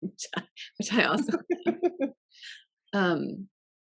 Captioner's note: both laughing